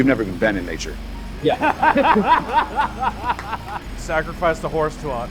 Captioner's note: laughing